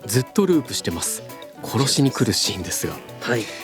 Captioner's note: laughs